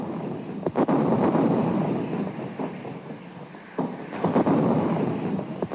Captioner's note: heavy artillery booming